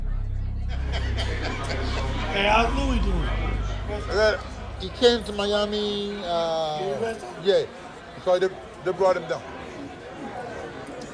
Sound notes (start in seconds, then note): 0.5 laughing